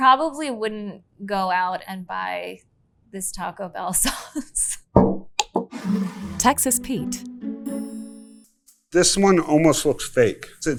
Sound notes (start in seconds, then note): 5.4 bottle thuds and scrapes